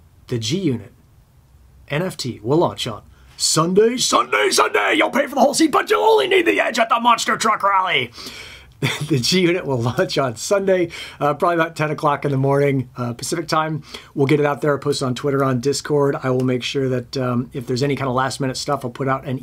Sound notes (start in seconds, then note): 9.0 laughs